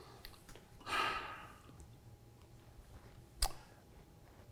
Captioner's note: sighs